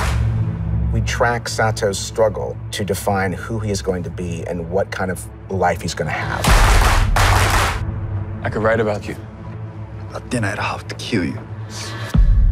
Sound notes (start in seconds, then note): 6.4 rhythmic clapping